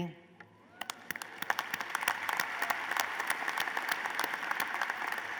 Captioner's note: applause